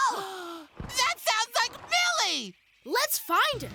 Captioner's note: gasps